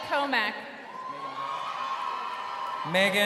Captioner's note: crowd cheering